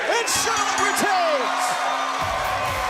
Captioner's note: bell ringing